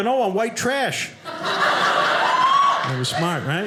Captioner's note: audience laughing